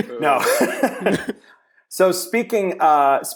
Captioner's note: laughter